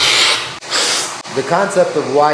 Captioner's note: sips